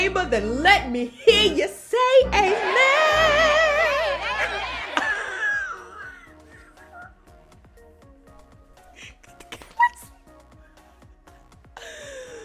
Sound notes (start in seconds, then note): 4.7 laughs